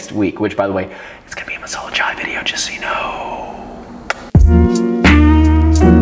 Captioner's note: whispers